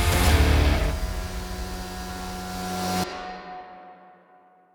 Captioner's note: machinery operating